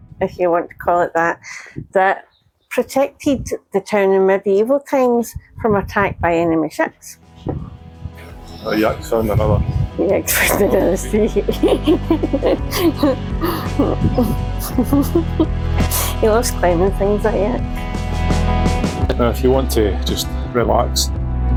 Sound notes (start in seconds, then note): 14.4 laughter